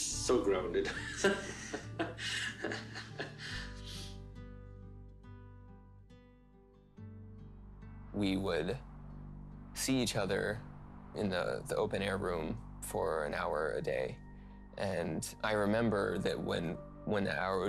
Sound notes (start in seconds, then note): 0.8 laughing; 4.2 soft music